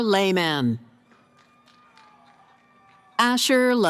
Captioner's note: cheering